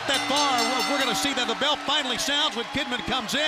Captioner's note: bell ringing